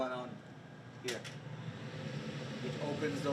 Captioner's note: air whooshing